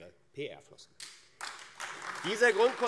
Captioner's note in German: Beifall AfD